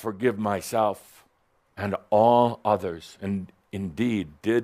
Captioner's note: none